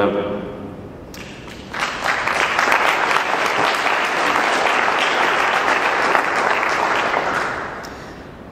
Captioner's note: clapping